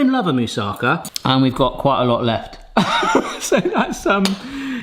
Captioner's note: laughs